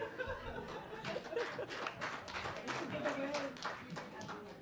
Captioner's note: audience applauds